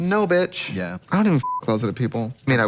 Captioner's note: beep